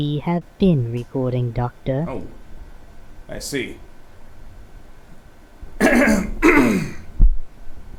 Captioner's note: clears throat